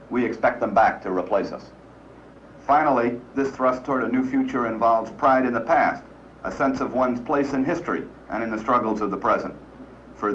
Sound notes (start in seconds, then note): none